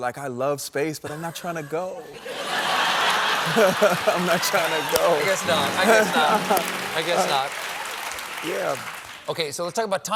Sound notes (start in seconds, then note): 2.7 applause